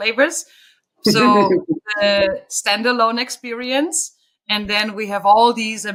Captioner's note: chuckling